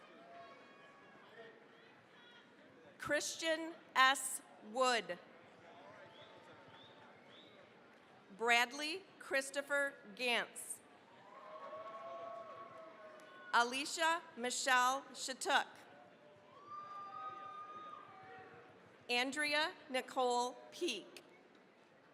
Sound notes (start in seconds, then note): 0.0 cheering, applause; 5.7 applause; 11.1 cheering, applause; 16.4 cheering, applause